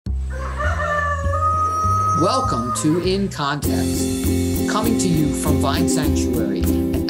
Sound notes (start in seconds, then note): 0.2 rooster crowing